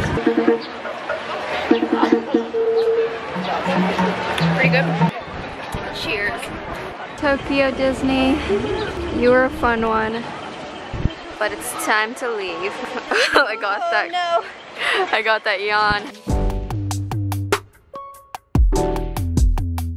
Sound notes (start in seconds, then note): 0.0 drum beats; 12.5 laughs; 16.3 gentle music